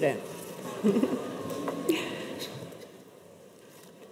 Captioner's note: chuckles